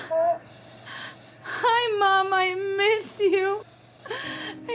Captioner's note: crying